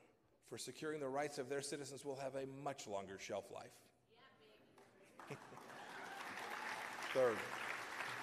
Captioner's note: applause